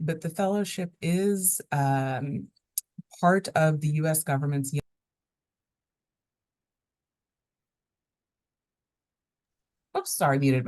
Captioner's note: no audio